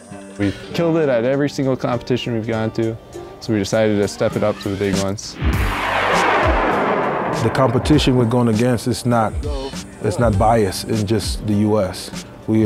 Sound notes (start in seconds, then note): 5.3 rocket Launching